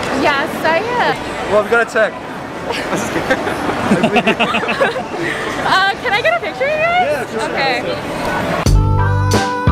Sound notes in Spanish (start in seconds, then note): 4.2 la risa